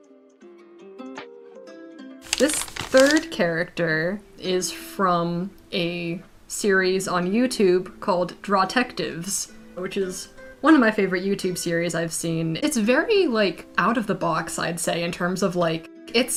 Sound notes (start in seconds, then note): none